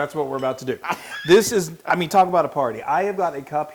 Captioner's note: laugh